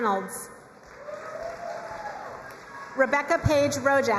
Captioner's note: crowd cheering and applauding